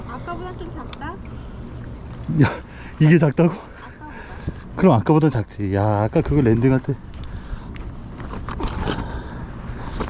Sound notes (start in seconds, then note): 7.3 haa